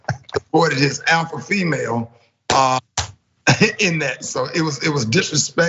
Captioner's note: laugh